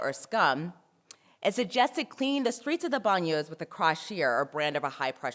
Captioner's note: french; french